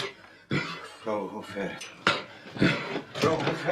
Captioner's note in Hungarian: Liszt nyögve köhög